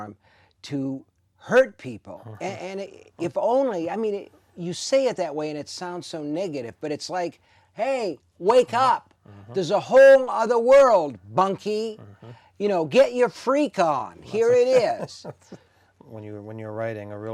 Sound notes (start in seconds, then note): 14.1 laughing